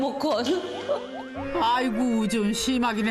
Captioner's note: ㅎㅎㅎㅎㅎㅎㅎ